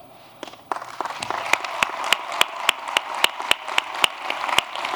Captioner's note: applause